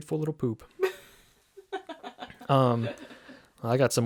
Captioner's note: laughing